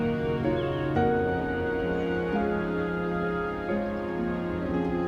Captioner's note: birds chirping